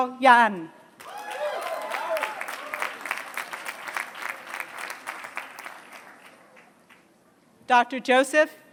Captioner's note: applause